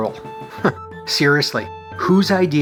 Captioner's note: chuckle